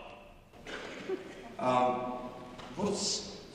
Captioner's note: audience chuckling